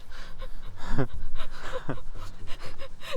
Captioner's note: laughter